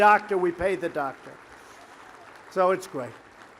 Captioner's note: applause